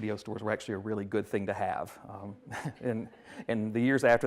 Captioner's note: chuckles